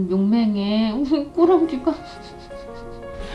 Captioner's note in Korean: 웃음